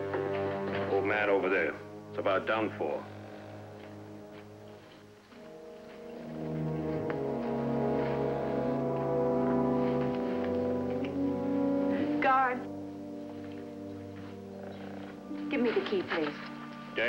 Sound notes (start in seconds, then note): none